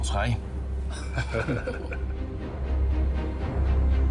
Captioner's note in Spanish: Risas